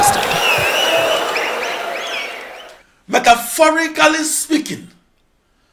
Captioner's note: wild applause and cheering for 22 seconds